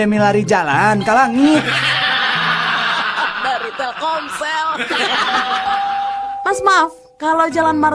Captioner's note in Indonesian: tertawa